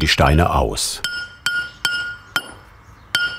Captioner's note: metallic hammering